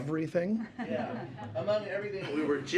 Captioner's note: laughter